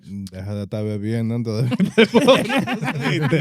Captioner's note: speaking In Foreign Language; laughing